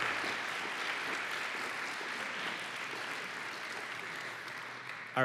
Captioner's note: applause